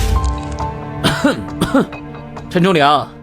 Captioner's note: cough cough